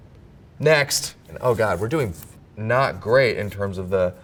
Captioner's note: paper rips